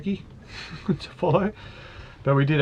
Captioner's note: chuckles